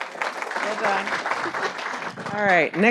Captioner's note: audience applauding